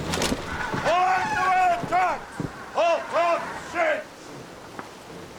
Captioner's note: yells orders